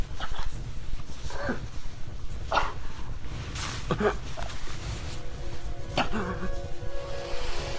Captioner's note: Wanderer's choking